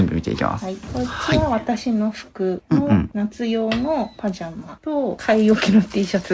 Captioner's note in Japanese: 咳払い